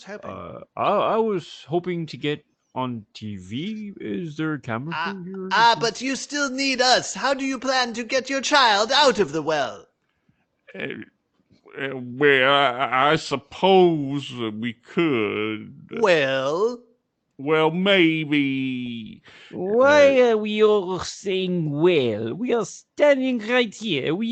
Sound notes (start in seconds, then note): 11.0 stammering